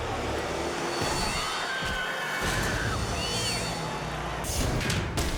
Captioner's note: bikes rumbling; spectators scream; bike slams; graphic pounding